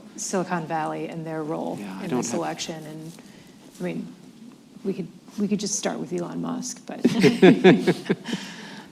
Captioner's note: laughter